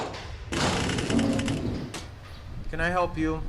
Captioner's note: door creaks